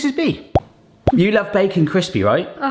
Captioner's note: bubble popping